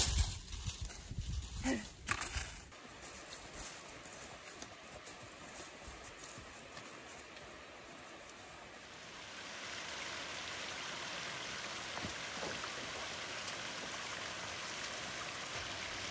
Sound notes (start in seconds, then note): 1.6 grunt/sigh; 3.4 rushing sound of a waterfall; 9.4 steady trickle of a stream